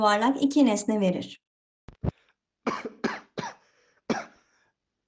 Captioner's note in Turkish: Galen öksürür